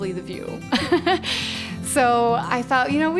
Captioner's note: laughing